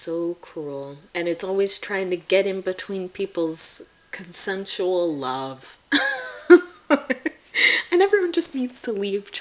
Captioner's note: laughing